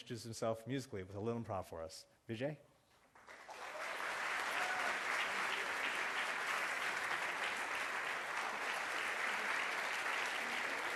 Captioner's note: applause